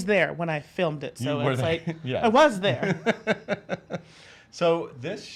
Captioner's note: laughs